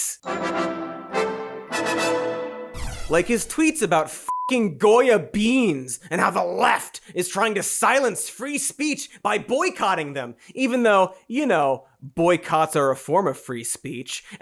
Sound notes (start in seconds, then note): 0.0 jubilant music; 4.3 beeps